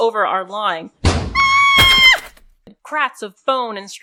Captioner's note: screams, bone cracking, and metal pipes